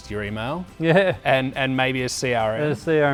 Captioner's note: laughs